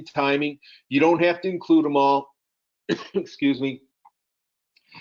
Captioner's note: coughs